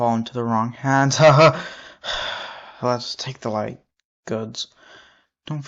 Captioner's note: sigh